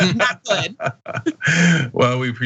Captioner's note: laugh